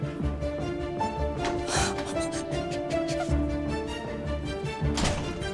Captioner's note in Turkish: Ağlıyor